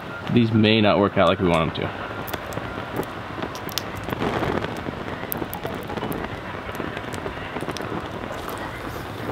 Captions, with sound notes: These may not work out like we want them to. (fire crackling)